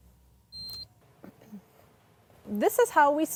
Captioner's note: machine beeping